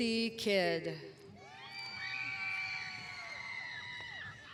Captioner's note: cheering